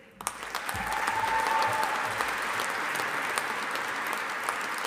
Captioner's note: audience applauding